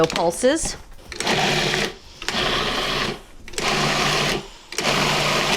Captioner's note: processor rumbles